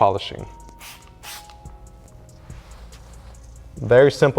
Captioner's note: bottle hissing; cloth scratching